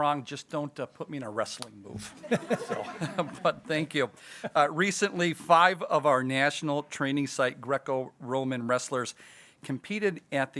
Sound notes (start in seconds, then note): 2.0 people giggling